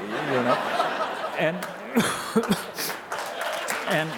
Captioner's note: audience applause